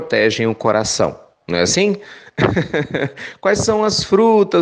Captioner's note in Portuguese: risos